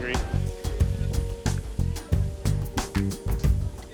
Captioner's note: sizzling